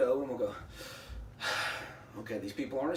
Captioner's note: sighs